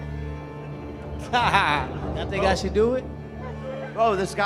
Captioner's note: laughs